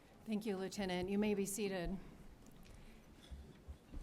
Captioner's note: none